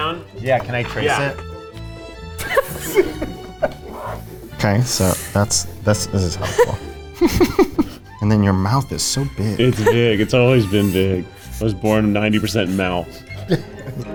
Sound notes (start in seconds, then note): 2.5 laughing; 6.1 laughing